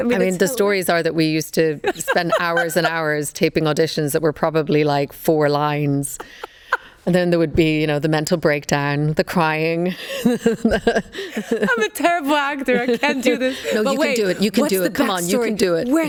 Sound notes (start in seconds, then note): 6.2 Karolina laughs; 10.1 laughs